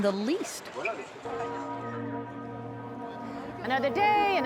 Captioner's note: bells tolling